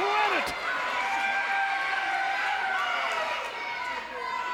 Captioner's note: audience cheers